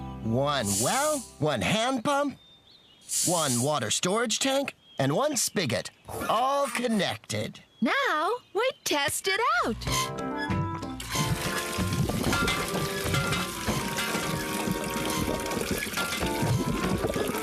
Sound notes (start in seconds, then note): 11.0 squeaking; 11.0 water Gurgling